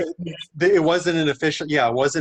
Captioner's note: laughs